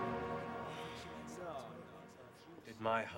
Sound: sighing

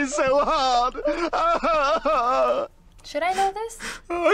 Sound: sobbing; laughing

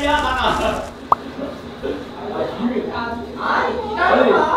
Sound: scoffs

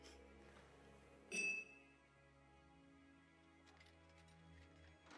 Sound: glasses clinking

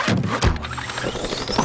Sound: trap activating

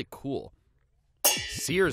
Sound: pans clanging

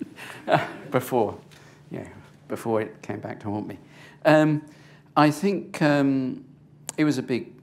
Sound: chuckles

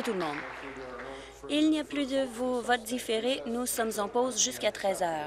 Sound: applause

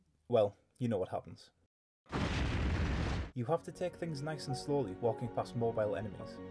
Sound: explosions

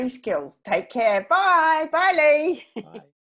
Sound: laughs

